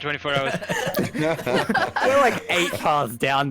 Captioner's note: all giggles